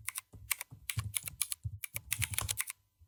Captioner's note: typing